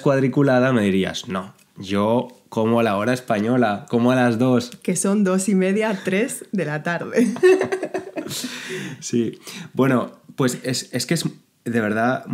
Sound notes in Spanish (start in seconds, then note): 7.1 risas